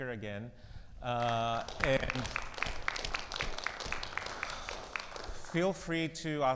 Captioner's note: audience applauds